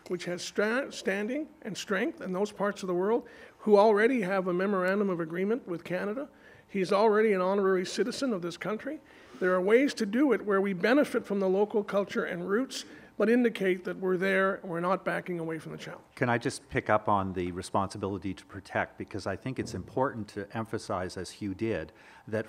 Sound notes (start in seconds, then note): none